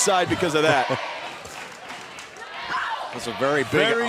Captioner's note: laughter